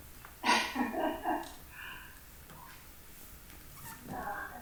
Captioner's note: performer laughs